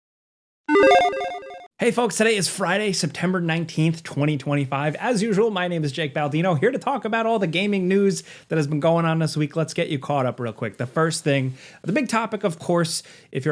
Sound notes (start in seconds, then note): 0.7 logo beeping